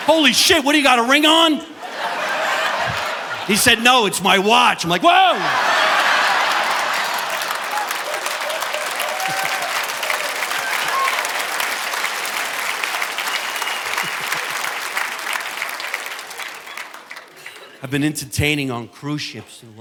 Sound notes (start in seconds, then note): 2.1 audience laughing; 6.3 audience applauding; 6.3 audience laughing; 14.2 chuckles